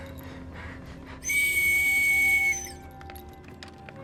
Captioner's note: soldier whistles